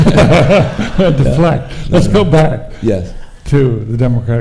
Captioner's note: audience laughing; laughs